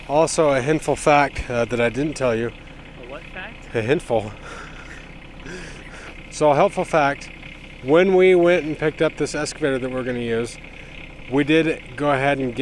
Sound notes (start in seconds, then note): 5.3 chuckles